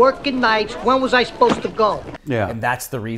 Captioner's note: bag thuds